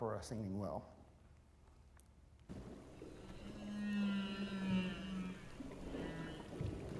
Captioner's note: whale songs